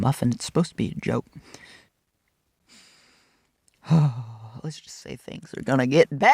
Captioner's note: christian silence